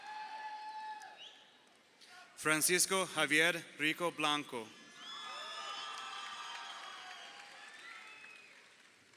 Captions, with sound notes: Francisco Javier Rico Blanco. (crowd cheering)